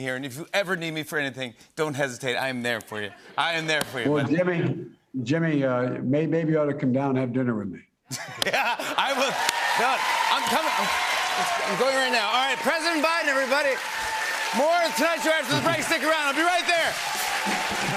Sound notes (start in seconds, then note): 8.1 laughter; 9.6 cheering and applause